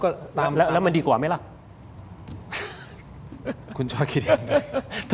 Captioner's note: laughs